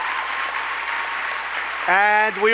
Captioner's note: applause